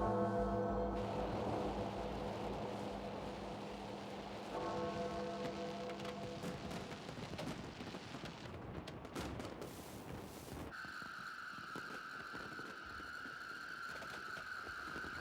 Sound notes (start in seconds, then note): 0.1 bell rings; 5.7 fireworks explode